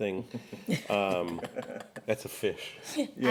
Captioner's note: laughing